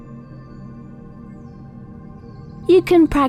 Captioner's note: birds chirping